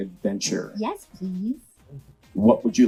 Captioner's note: laughs